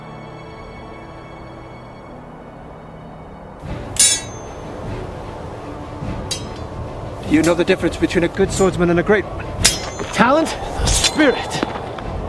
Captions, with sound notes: (swords clanging) (thrilling music) Do you know the difference between a good swordsman and a great one? - The talent? - The spirit!